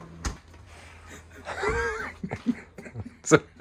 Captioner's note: laughing